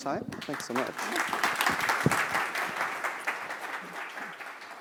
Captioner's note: applause